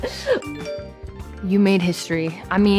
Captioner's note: chuckles; phone dinging